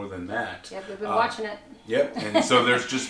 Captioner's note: laughs